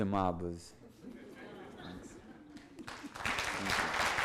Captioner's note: audience laughs; audience applauds